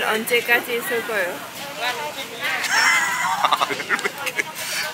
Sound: laughing

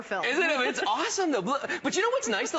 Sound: laughter

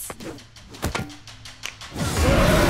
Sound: snapping

